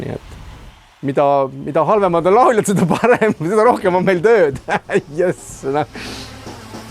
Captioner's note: hahaa